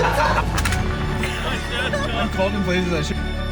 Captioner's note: chuckling; intense music